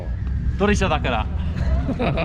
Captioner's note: drift car